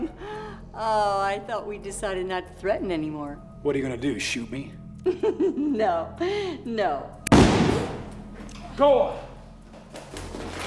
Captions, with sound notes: Oh, I thought we decided not to threaten anymore. What are you going to do? -Shoot me? -[laughs] No. No. [shot blasts] Gola!